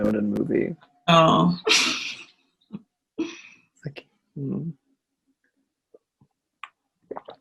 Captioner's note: laughs